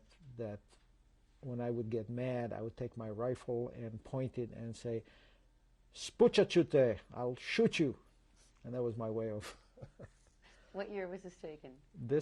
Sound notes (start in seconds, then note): 5.4 non-english; 9.5 laughs